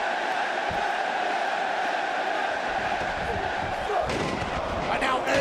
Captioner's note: crowd cheering